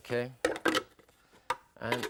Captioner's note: glass clatters